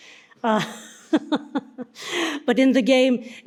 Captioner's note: participants laugh